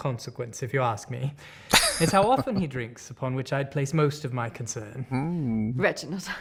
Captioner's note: chuckling